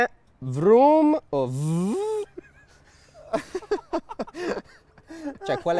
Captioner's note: embarrassed laughter